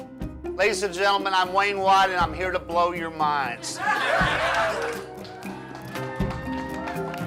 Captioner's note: laughter